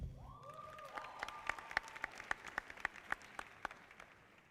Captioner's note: audience applauding